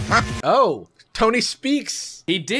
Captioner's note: electronic upbeat music; duck quacks